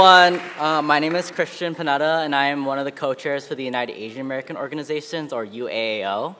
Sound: applause

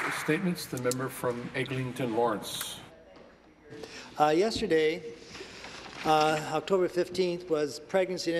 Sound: applause

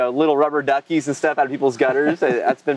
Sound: host laughs

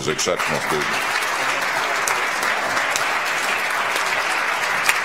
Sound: audience applauds

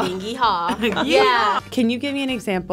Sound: chuckles

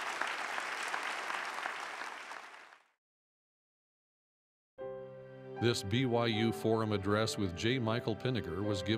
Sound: applause

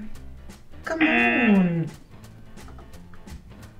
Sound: buzzer rings

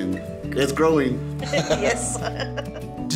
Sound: laughing

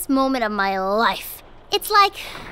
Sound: thunder rumbles

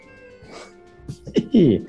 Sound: chuckles; impish laugh

